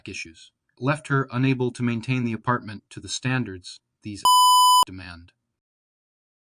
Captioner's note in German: Piep